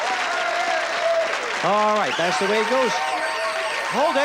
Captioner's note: applause; bell ringing